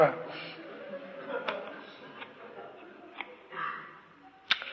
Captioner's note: laughter